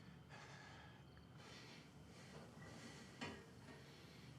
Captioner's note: Isaac panting